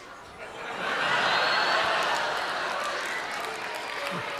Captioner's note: audience laughing